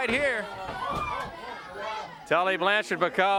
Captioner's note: body thudding